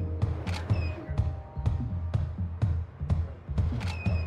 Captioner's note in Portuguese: câmeras estalando